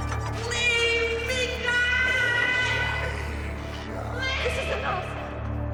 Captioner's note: menacing laughter over eerie electronic music; echoing ghostly voices